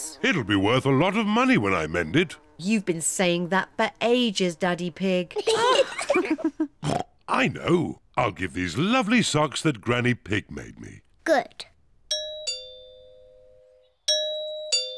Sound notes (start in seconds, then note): 5.3 kids and mummy pig laugh; 6.8 oinks; 12.1 doorbell rings